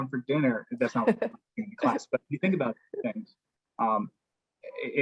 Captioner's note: laugh